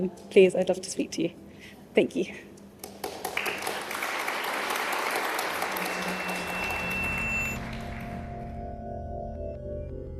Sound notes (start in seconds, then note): 2.8 applause; 5.7 drone-like music